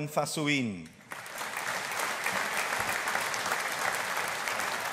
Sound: audience applauding

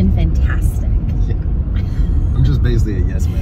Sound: laughing

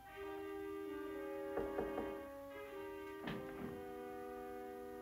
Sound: knocking on door

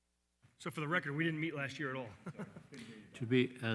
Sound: laughs

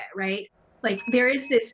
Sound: bell dings

